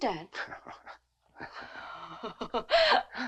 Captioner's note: Nell chuckles; Nick chuckles